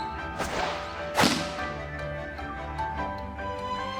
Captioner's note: thud!!!!!!!